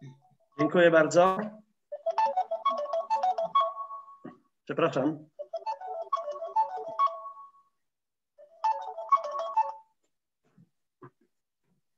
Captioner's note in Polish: Dzwonek telefonu